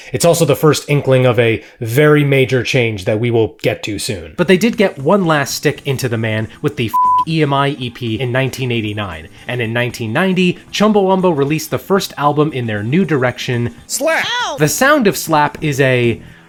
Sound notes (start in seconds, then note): 6.9 beep